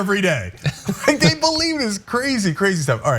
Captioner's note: laugh